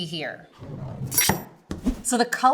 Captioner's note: knife chops